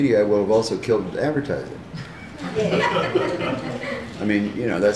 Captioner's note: laughter